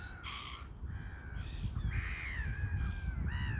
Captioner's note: seagull sounds